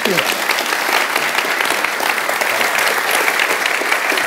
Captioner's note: audience clapping